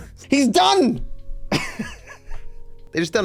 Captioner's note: laughs